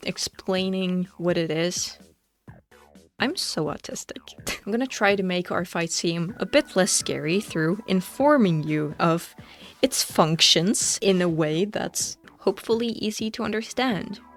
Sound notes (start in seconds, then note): 4.4 laughs